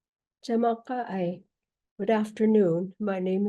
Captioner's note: speaking in native language